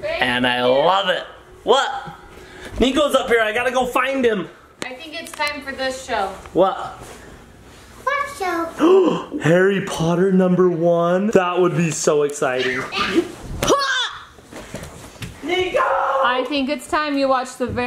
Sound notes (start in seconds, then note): 8.8 gasps; 13.8 mom yells